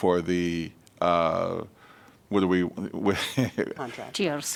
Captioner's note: laughter